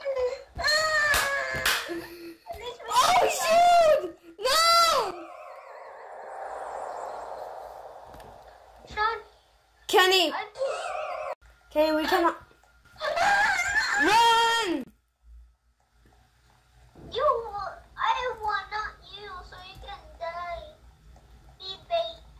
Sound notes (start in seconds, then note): 0.6 screams; 13.2 screams